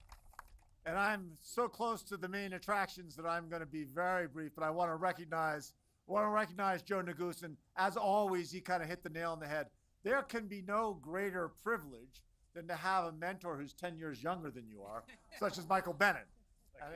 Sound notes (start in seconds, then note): 0.0 applause